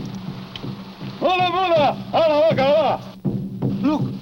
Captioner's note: speaking in foreign language